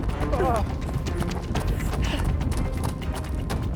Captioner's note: Larry groans